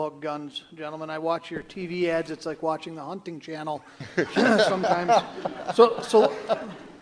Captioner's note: candidates laugh